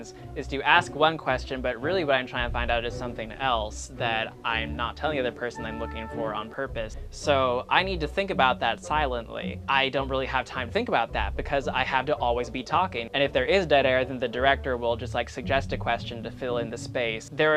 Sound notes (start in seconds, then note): none